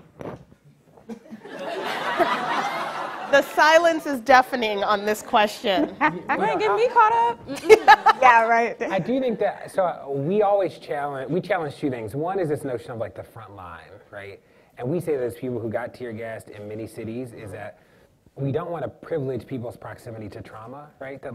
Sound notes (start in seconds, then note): 1.1 audience laughing